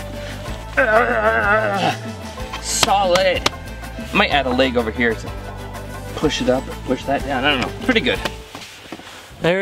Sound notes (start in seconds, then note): 0.6 groans